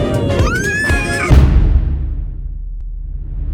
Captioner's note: squealing